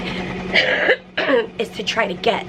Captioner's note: coughing